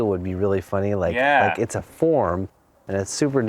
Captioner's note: voiceover